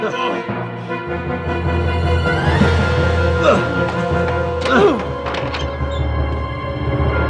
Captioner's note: dramatic music; Sean groaning; thudding